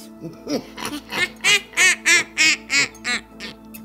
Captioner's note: witchy laughing